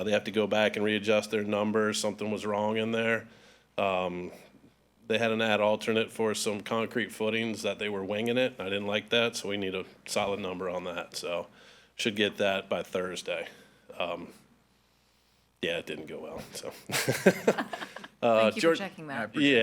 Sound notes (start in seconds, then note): 16.4 chuckles; 16.6 all laughing